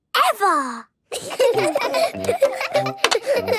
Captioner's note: laughter